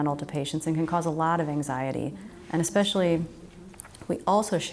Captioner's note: audience chattering